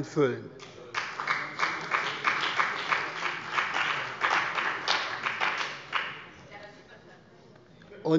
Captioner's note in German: Beifall bei dem BÜNDNIS 90/ DIE GRÜNEN und bei Abgeordneten der CDU